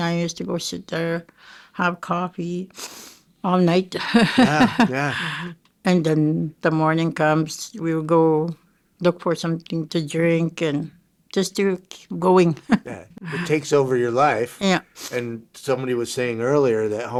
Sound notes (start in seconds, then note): 3.9 chuckling; 12.6 chuckling